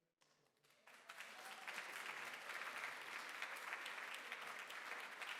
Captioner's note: applause